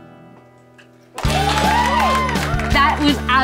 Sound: applause

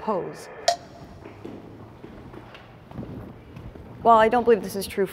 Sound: timer ticking

